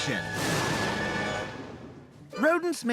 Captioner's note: thunder crashes